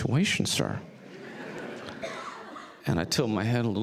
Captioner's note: audience laughs